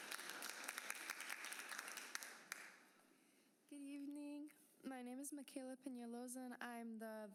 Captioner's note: applause